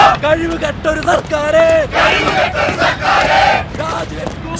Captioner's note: protesters Sloganeering